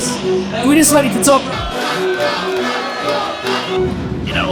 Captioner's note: crowd chanting "Toprak! Toprak! Toprak!"